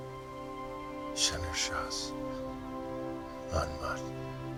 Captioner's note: recites the spell